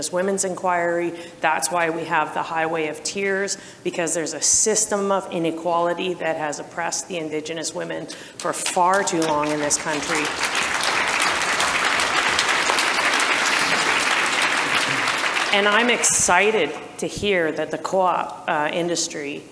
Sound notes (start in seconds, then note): 8.4 audience applause